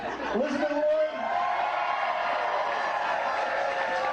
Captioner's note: cheers and applause